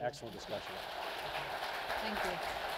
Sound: audience applause

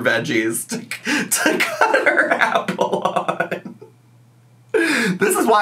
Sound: laughs

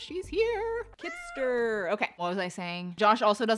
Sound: cat meows

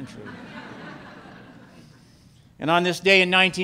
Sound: laughter

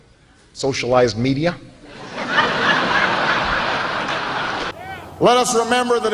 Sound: laughter

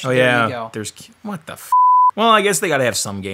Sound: beep

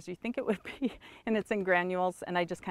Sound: chuckles

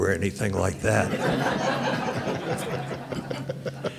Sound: laughter

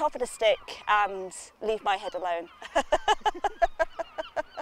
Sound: laughs

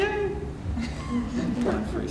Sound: laughter

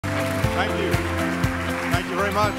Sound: applause

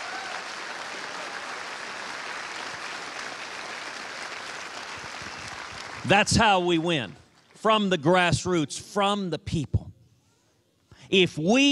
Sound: cheers and applause

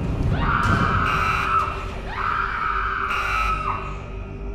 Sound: woman screaming; alarm blaring

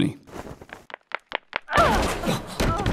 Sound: hits the door; hanji banging on the door

